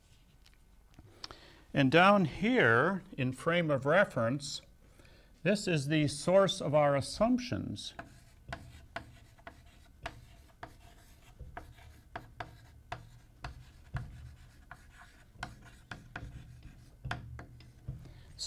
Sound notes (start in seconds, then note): 10.1 chalk sounds